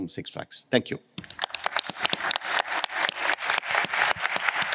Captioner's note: applause